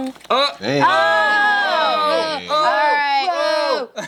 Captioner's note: shouting